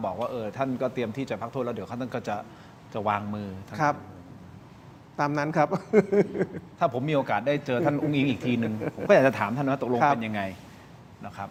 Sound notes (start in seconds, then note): 5.8 laughs